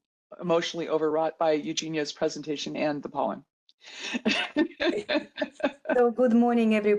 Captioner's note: laughs